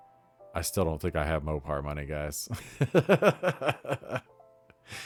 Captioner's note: laughs